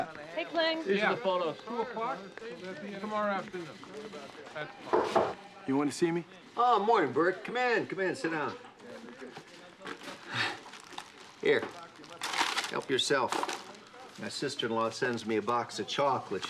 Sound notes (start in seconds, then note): 3.7 knocking at door